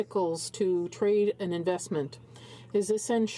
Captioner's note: speaking in french